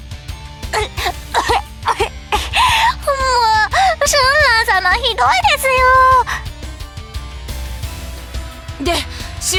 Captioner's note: cough